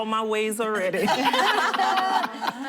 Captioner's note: laughter